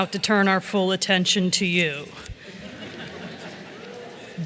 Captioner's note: chuckles